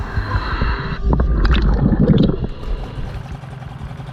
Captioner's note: breathing apparatus gurgling; boat engine droning